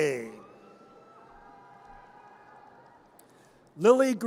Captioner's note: audience cheers